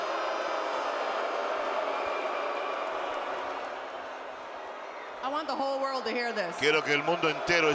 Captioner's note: applause